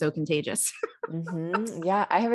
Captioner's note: laughs